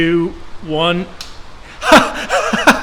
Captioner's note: switch clicks; laughs hysterically